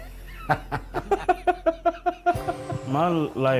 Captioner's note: laughter